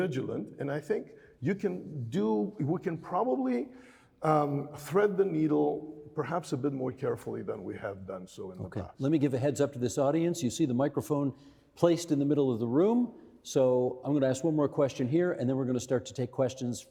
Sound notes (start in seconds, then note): none